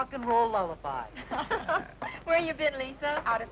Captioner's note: people laughing